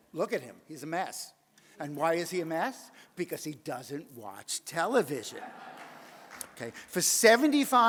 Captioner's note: audience laughs